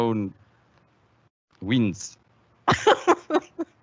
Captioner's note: bursts out laughing